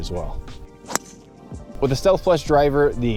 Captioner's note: club smacking ball